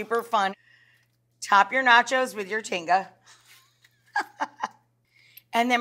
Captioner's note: laughing